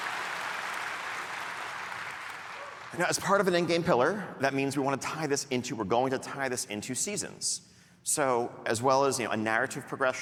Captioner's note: cheering